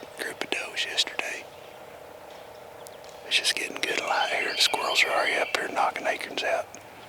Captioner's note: whispering